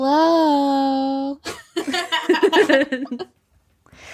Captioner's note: both laughing